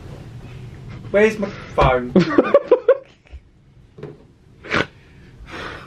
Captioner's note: laughing